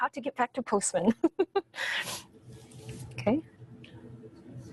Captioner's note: laughs